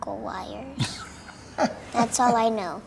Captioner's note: laughs